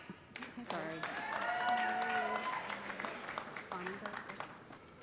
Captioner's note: cheers and applause